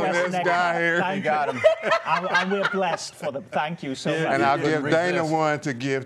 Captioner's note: laughter